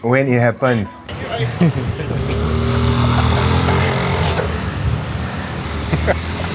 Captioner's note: cars and Motorcycle passing